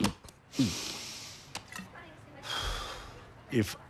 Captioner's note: sighs